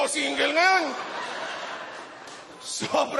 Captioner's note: laughter